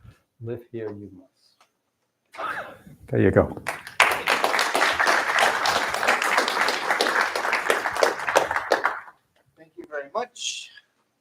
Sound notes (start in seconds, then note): 3.6 applause